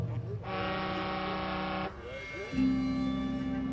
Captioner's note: boat horn bellows